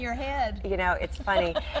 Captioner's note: laughing